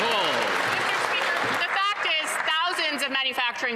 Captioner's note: applause